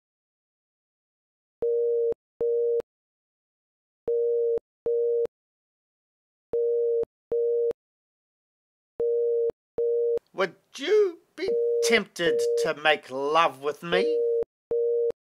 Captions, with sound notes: [phone dial tone] Would you be tempted to make love with me?